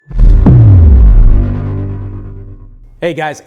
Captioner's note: exploding bass sound